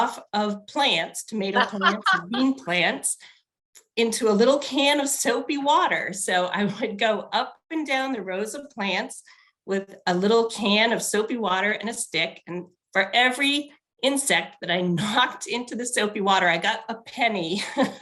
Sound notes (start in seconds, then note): 1.5 laughs